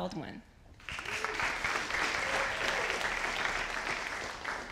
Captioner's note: audience applauding